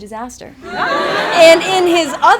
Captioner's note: attendees laugh